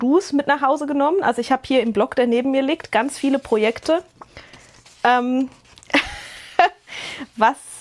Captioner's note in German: Gelächter